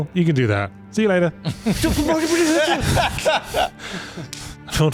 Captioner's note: laughter